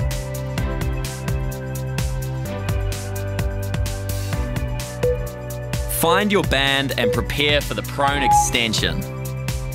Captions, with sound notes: (timer beeping) Find your band and prepare for the Prone Extension.